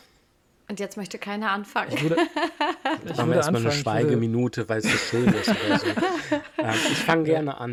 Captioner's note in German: gelächter